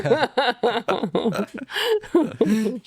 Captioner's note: laughter